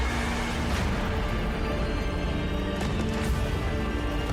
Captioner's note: mystical explosion